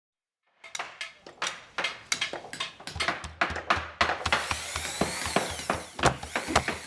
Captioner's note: construction noises